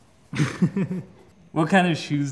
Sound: laughs

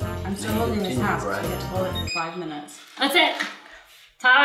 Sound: beep

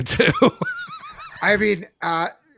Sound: laughs

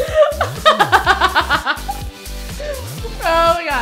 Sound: laughter

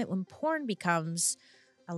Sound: none

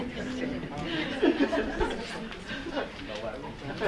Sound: audience laughing

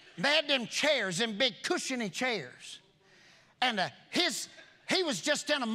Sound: none

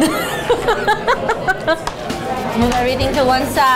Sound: laughs

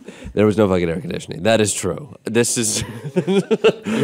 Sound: laughing

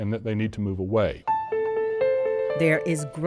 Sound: voiceover

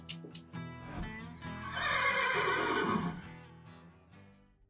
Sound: horse neighs

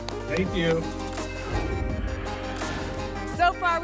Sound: whoosh

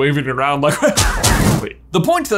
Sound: wand firing

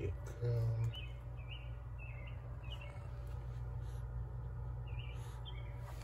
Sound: birds chirping continues

